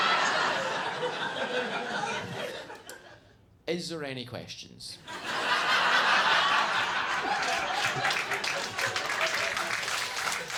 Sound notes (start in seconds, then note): 0.0 chuckles; 0.0 audience laughs; 5.2 audience laughing and clapping